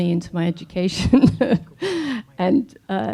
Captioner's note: laughing